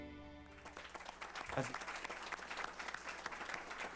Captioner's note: applause